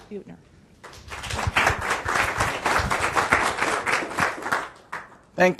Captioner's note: audience applauding